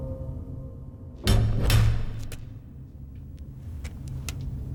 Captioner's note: banging